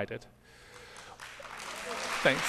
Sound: applause

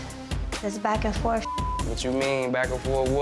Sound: beep

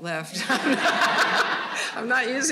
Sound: all laughing

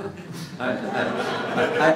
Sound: laughter

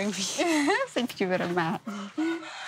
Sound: laughs

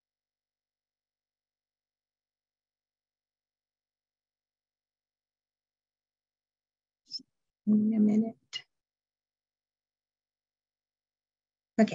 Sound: silence

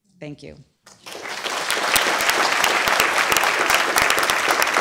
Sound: applause

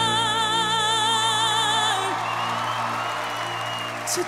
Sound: cheers and applause

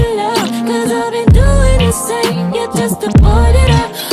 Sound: gasp

